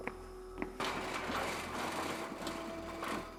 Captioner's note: foosteps; jail Door Opens